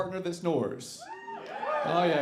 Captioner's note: audience cheering